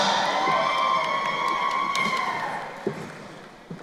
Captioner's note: crowd cheering